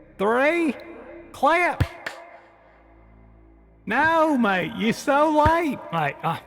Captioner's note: clap; out of sync clap; out of sync clap